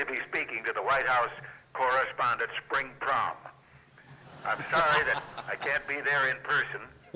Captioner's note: laughter